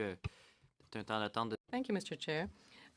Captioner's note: speaking French